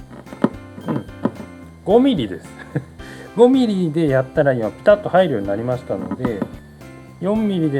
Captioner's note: laughs